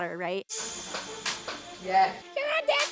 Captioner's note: clicks